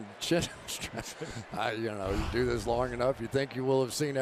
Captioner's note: chuckles